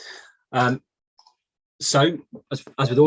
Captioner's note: mouse clicks